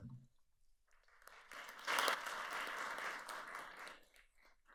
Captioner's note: audience applauds